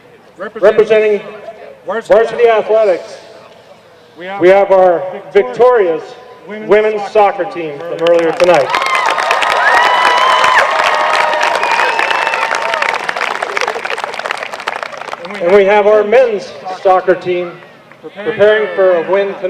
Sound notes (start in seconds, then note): 10.2 applause